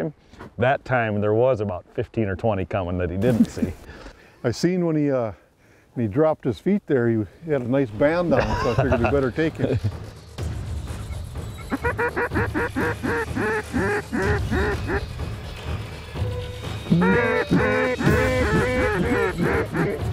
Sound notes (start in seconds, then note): 11.5 duck calls; 16.7 duck calls